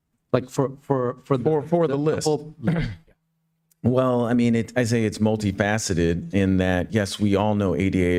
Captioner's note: clears throat